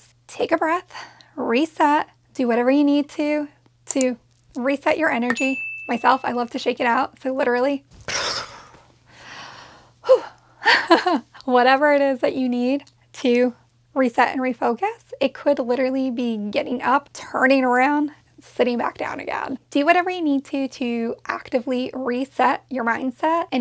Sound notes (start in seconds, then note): 9.9 sighs; 10.6 laughs